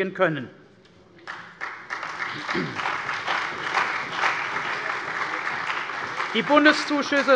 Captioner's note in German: Beifall bei der CDU und dem BÜNDNIS 90/DIE GRÜNEN